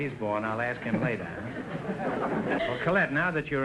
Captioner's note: audience chuckling